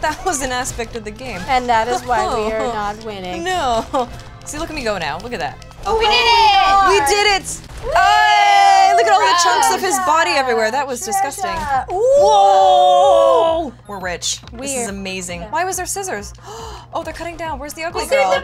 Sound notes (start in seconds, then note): 3.9 laughs; 7.8 celebratory exclamations